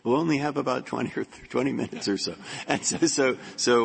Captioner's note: laughter